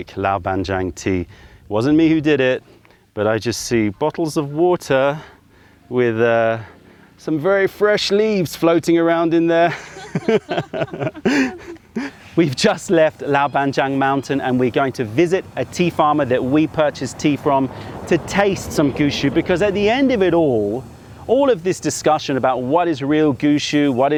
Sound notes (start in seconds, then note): 9.6 laughter